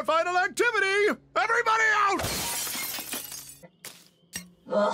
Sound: smashing through window

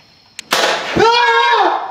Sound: gun shot

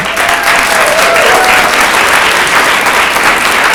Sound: audience applauds

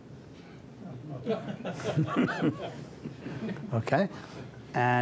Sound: laughter

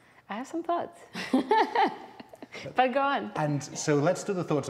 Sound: laughs

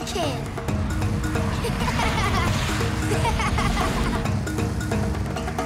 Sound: laughing

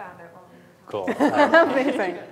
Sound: faintly speaking

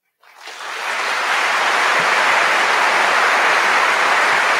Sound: audience applauding

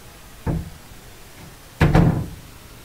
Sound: door shuts

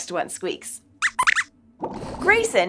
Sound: squeaks squeaks

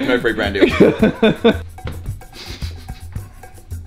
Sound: laughs

